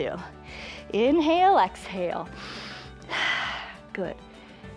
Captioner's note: inhales and exhales